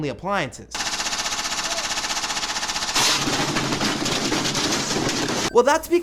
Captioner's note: buzzing